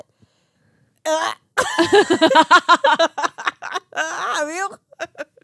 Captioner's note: laughing